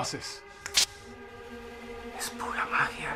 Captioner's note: sound of a spark